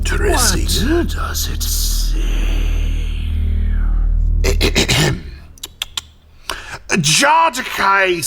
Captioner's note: Drechen clears throat